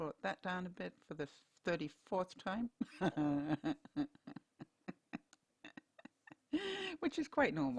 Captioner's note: laughter